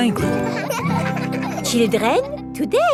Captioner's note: children laughing